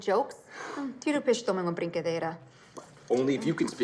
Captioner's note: speaking in Portuguese